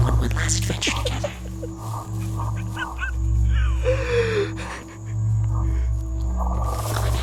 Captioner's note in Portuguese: NOAH chora